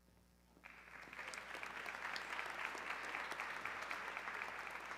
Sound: audience clapping

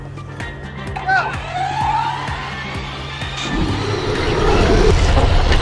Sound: cars whirring

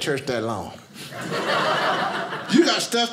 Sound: audience laughing

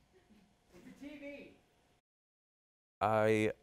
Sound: laughter

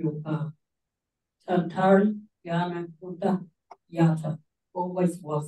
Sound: speaks in Kaurna

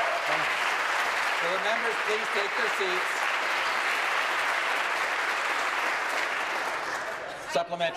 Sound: applause

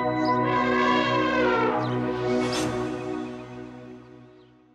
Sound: elephant growl

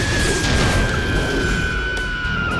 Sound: explosion

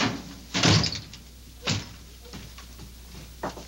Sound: door thudding

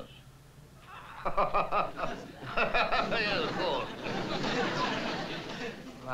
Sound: laughs

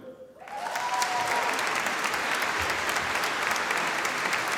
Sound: audience applauding

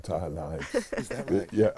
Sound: laughter

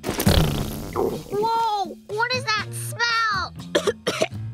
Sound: coughing

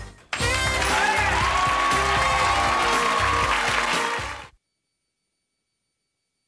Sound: upbeat music; audience cheering

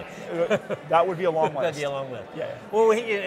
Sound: laughs

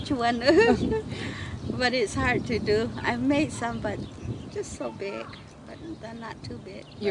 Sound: laughs

